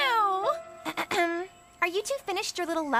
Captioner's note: Courtney Clears Throat